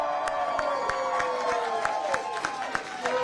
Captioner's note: applause